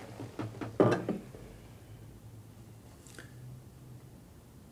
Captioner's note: glass clanks